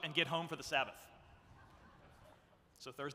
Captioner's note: audience laughs